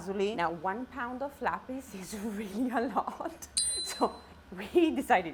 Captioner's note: giggles